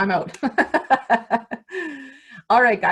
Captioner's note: laughs